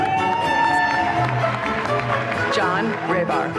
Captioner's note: applause and cheering